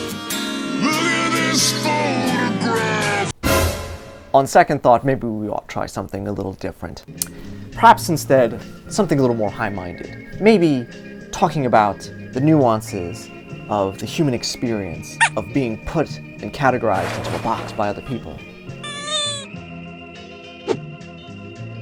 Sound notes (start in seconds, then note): 15.2 squeek; 18.8 sad Squeek q_q